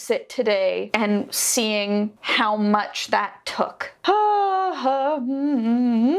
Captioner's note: hums